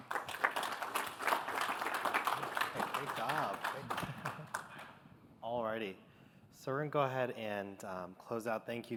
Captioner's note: applause